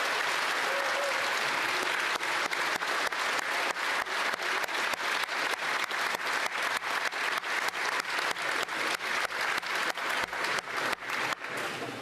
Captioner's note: applause